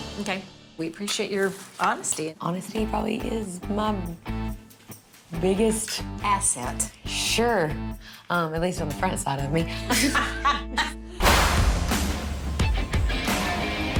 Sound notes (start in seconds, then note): 9.8 laughs; 11.2 rock music